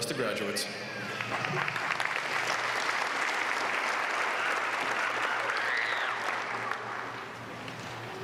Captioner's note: applause